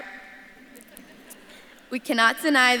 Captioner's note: audience laughs